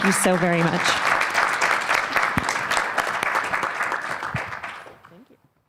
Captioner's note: applause